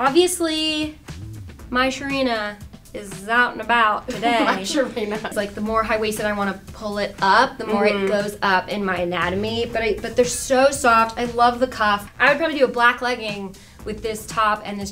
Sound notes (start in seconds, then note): 4.1 chuckles